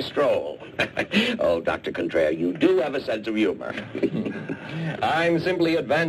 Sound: laughs

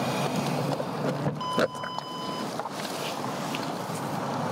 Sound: door beeps

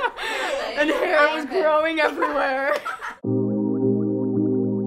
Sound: laughs; chuckles; whimsical music

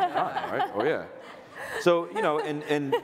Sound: audience laughter

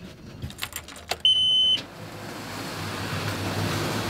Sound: beeping

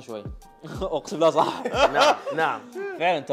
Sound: laughs

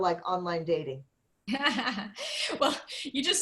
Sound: laughter

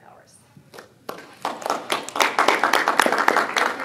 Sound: applause

